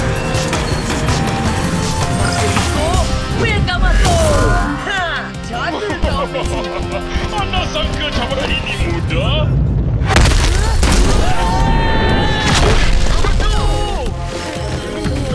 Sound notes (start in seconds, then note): 9.5 loud crashes